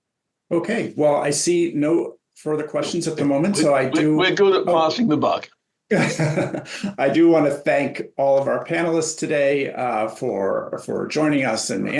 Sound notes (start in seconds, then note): 5.9 laughter